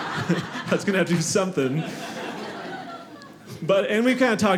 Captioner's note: audience laughing